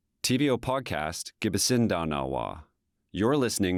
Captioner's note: speaking Indigenous language